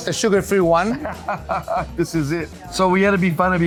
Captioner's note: chuckles